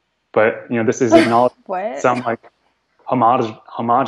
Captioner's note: scoffs